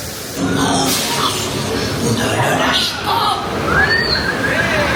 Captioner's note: pirates speaking in French